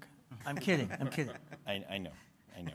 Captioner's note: laughs